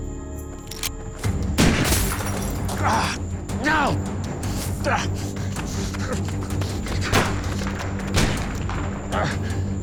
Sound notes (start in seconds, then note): 0.5 cocks gun; 1.6 gunshot; 8.0 gunshot